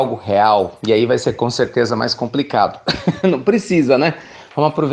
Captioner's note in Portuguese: Risos